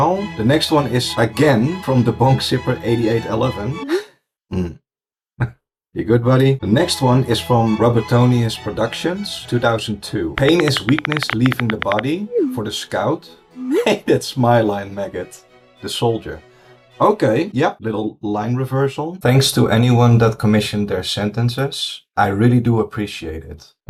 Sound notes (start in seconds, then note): 3.9 sigh